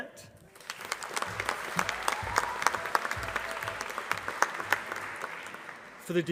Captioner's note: applause